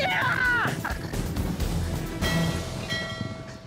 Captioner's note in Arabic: رنين الأجراس